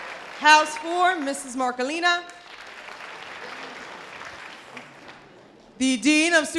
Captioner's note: audience applause; audience applause